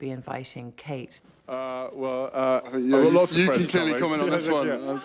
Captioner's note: stammers